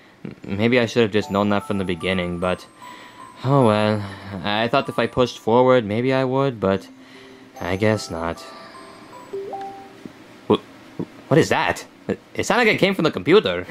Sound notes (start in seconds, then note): 8.4 electronic notification beep